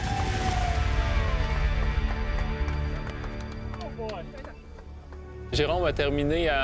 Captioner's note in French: applaudissements